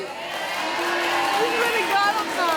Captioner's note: audience shouting